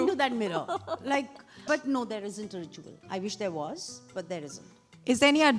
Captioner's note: laughs